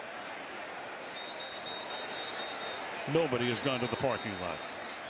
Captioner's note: whistle